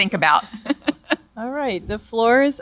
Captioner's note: laughter